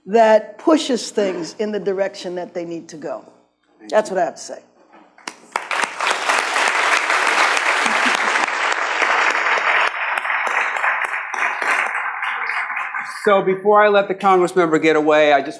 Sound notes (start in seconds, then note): 5.2 audience claps